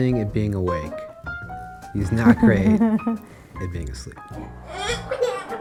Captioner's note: laugh